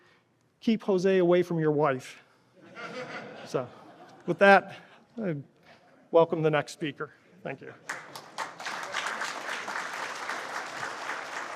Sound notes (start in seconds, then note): 7.8 applause